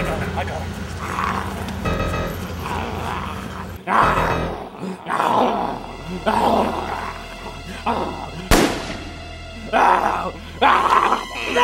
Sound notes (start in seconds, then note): 2.3 Julio growling; 8.5 gun fires; 9.6 Julio growls